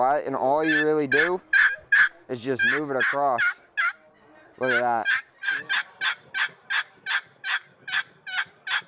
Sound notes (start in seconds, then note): 4.6 box call clucks